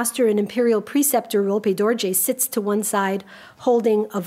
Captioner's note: speaks a foreign language